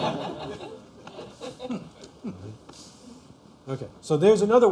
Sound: laughter

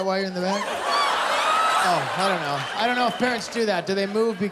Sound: laughter

